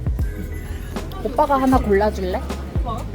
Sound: laughs

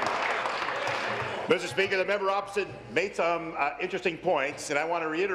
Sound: applause

